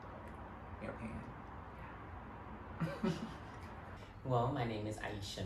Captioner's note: laughs